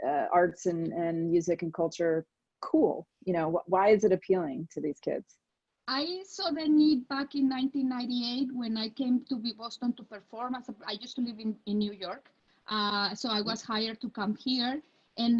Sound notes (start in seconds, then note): none